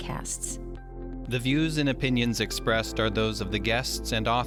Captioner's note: voiceover